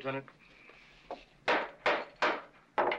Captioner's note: gavel banging